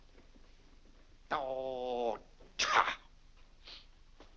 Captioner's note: grumbling